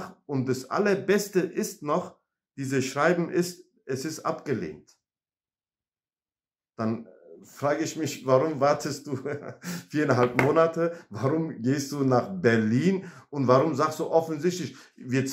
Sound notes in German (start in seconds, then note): 8.8 lacht